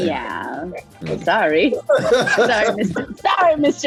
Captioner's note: Brandon laughing